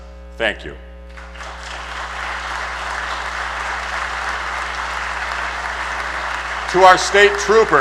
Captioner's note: applause